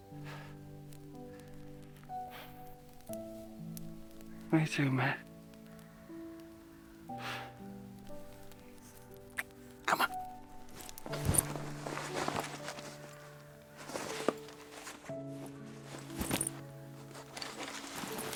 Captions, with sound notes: me too, mate. (gentle orchestral music) Come on. (bag rustling) (gentle orchestral music continues)